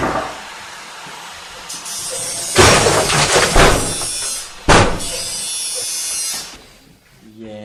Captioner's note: knocking; more clattering sounds and drilling